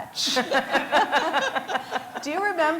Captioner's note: laughter